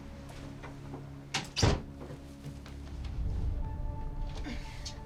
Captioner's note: door shuts